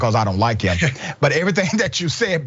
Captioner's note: laugh